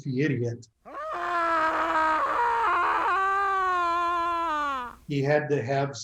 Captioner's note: Joker screams